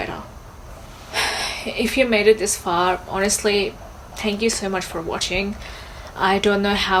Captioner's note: sighs